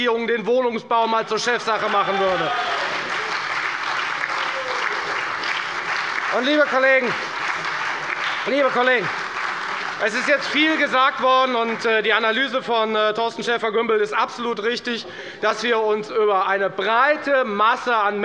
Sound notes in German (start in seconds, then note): 3.7 Beifall bei der FDP, der SPD und der LINKEN